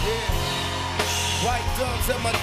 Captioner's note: cheering